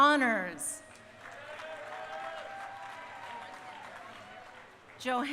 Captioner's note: crowd applauding